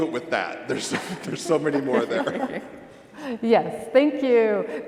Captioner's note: laughter